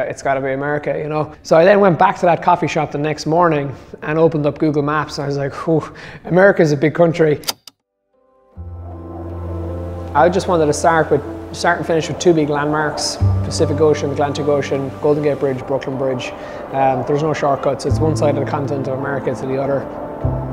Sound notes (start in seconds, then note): 7.4 typewriter clicking; 8.3 forlorn bluesy music; 20.3 slow piano music